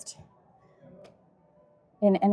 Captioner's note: crowd chattering